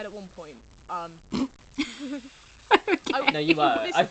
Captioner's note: laughs